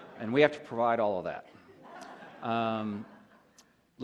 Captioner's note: laughter